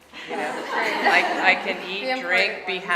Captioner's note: audience laughing